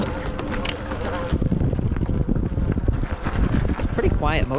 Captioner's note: bike engine roaring